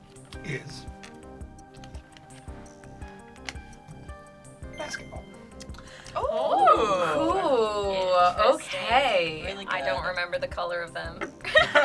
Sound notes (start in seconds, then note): 4.7 word twinkles; 6.2 group hums and awes